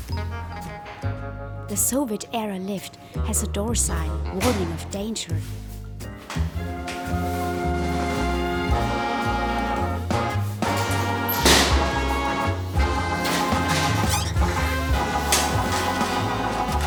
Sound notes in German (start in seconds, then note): 10.6 Tür schlägt zu